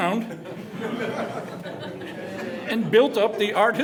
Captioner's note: laughter